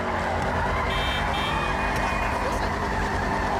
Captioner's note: vehicles sounding horns